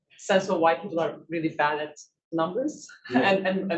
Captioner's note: chuckles